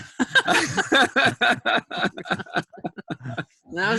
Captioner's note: laughter